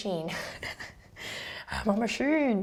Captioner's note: laughs